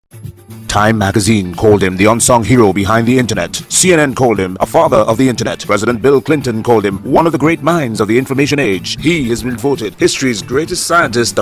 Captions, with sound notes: [Radio Announcer] TIME magazine called him “the unsung hero behind the Internet.” CNN called him “A Father of the Internet.” President Bill Clinton called him “one of the great minds of the Information Age.” He has been voted history’s greatest scientist